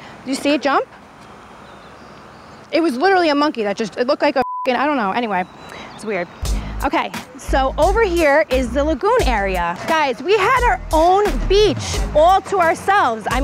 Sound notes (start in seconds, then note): 4.4 computer bleeps